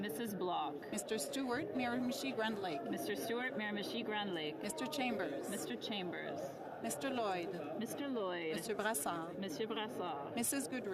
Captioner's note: calling of recorded vote